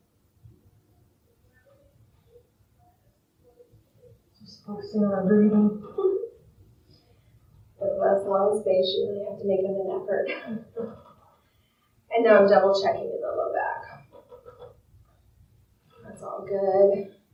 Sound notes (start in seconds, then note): 5.8 laughs